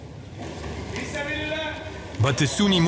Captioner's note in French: Arab spoken audio